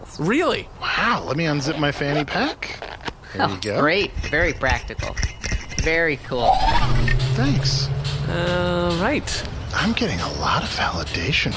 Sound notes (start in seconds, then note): 5.0 zipping noises, clinking noises; 6.2 whirring noises